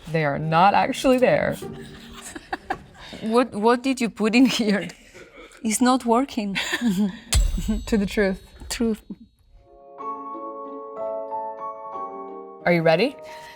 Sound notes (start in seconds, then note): 1.8 laughing; 6.5 Olivia laughing; 7.4 glass clinking; 9.6 delicate music